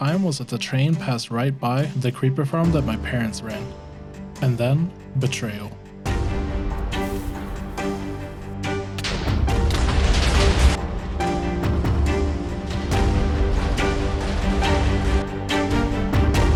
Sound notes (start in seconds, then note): 7.5 dramatic Music; 8.9 explosions and music